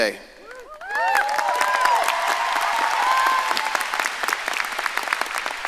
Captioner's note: audience cheering and applauding